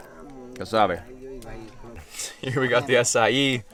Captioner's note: speaking in foreign language